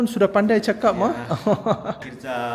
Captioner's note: laugh